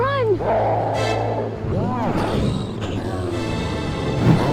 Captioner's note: riverbeast roars